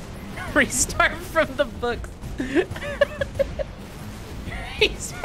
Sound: laughing

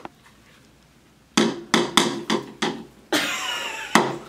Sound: tapping

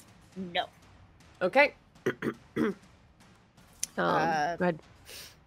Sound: clears throat

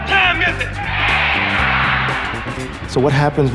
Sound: crowd

